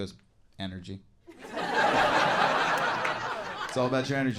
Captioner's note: audience laughs